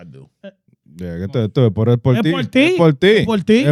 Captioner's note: speaking In Foreign Language